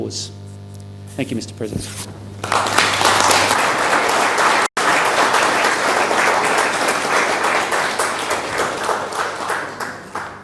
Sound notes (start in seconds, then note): 1.9 applause